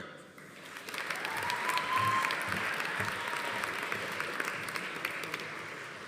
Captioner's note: audience applauding; audience cheering